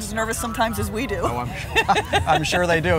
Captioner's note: both laughing